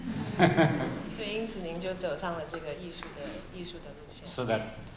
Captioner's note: laughter; Mandarin